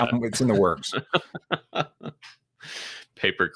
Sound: laughs

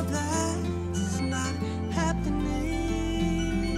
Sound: cell phone rings

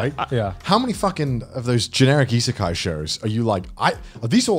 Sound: murmurs

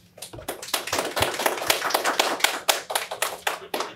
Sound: audience clapping

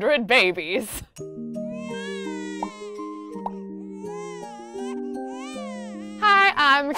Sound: gentle lullaby music; baby crying

